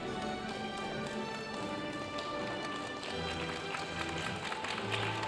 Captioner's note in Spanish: aplausos de la audiencia